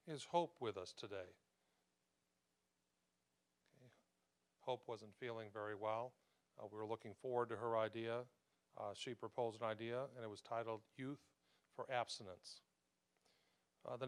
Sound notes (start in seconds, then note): none